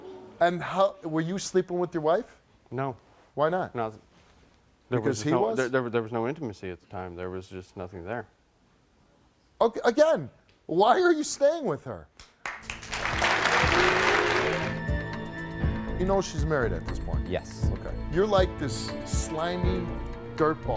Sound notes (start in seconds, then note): 12.2 audience clapping; 13.4 thrilling music